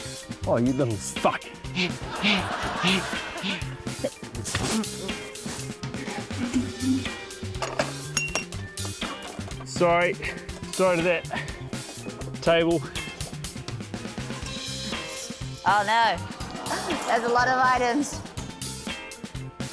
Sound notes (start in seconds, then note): 1.9 laughter; 7.6 glass clinks